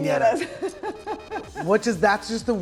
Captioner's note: laughing